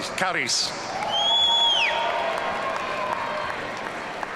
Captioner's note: audience cheering